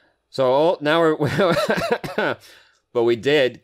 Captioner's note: laugh/cough